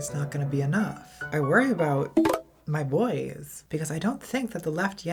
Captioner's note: Grindr notification